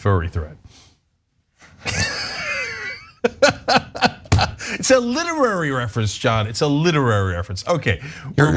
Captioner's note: laugh